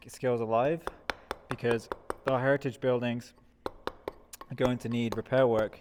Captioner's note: metal hammering